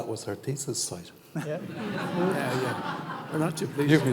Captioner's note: audience laughing